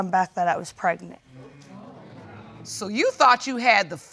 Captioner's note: audience exclaiming